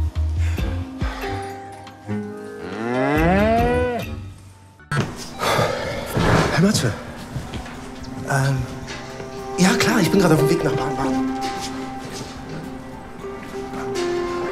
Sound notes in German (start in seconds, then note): 0.4 Seufzen; 4.8 Beschwingte Musik